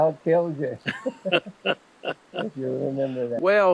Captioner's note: both laughing